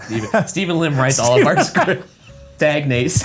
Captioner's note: laughs